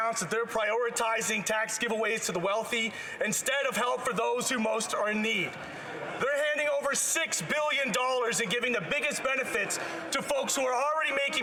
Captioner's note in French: voix de l'interprète